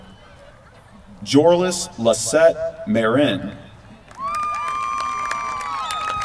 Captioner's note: applause